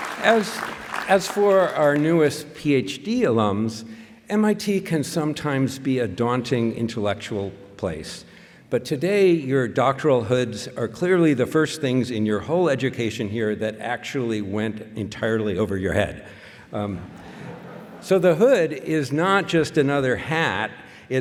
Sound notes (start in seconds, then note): 16.9 laughter